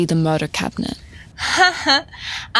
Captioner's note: Anya laughs